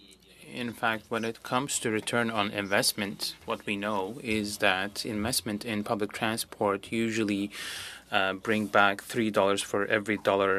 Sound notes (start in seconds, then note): 2.1 speaking French